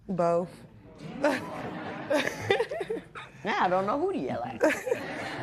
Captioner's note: laughter